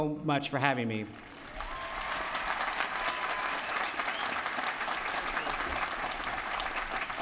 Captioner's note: applause